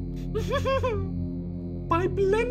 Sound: evil giggle

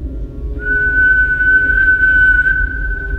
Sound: whistle

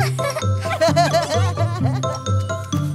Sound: laughing

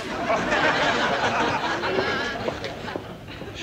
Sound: laughing

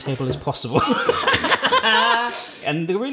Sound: laughing

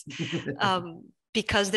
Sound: laughs

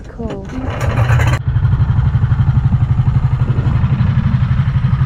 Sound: engine revs

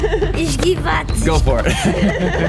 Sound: laughing; speaking Romanian

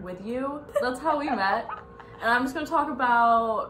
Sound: laugh

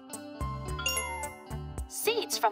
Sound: chimes

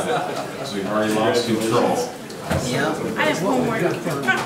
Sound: murmurs

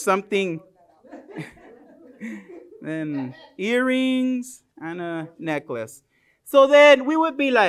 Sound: laughs; laughter

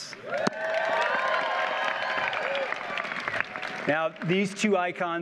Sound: audience cheers and applauds

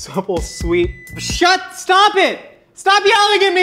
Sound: oven beeps

